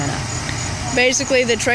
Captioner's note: sound from archival video, crickets in the background